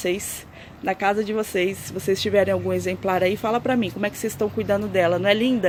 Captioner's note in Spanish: en español